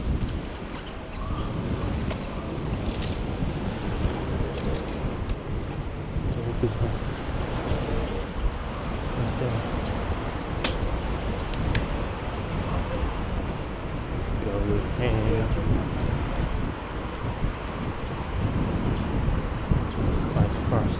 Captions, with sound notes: (Wind Blowing) It's right there. (Wind Blowing) This is gonna be a little handy after now. It's quite fast.